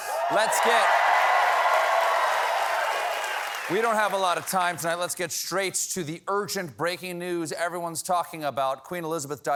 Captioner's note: cheers and applause